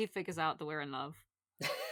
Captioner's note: laughs